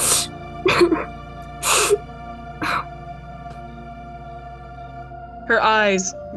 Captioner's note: lucy begins to sob, then slowly gets ahold of herself